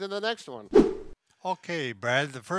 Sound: swift whooshing

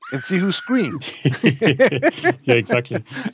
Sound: both laughing

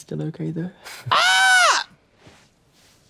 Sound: Trixie screeches

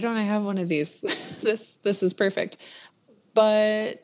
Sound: laughs

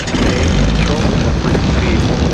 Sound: engines start; voices drowned out by engine

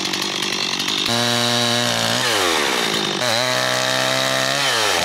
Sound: chainsaw rumbling

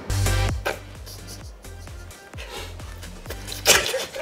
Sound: chuckling

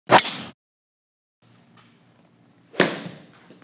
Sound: golf club striking ball; golf club striking board

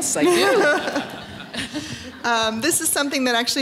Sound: laughter

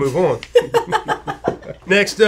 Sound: both laugh

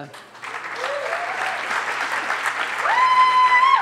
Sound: audience claps

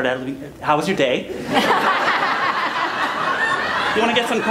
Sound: laughter

